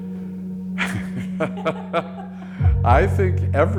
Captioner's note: both chuckling